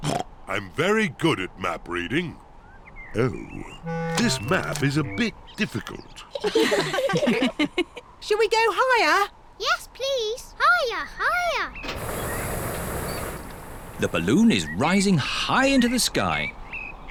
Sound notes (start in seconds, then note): 0.0 oinks; 6.3 all laughing